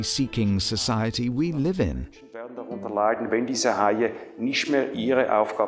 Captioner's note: foreign Language